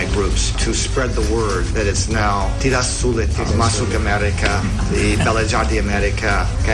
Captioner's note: non-english speech